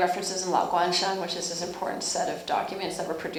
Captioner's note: speaking Chinese